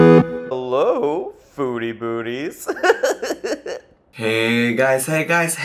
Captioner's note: upbeat music; laughs